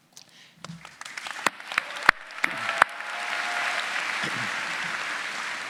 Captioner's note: audience cheering and applauding